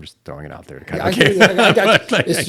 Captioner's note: laughter